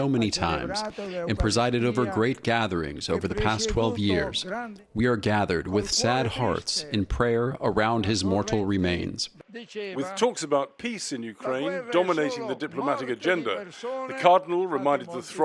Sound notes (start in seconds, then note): 10.6 voice-over